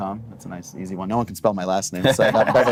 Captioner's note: laughing